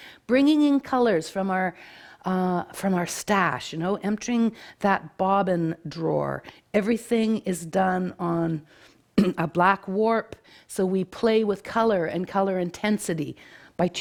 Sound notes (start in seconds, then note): 9.2 clears throat